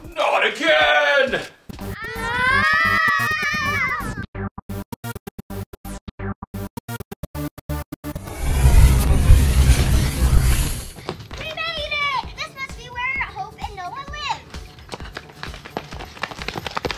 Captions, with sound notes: Not again! Ahhhh! [Sci-Fi travel music] [Whirring and whooshing] We made it! This must be where Hope and Noah live!